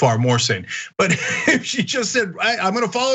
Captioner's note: laugh